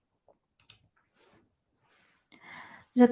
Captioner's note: mouse clicking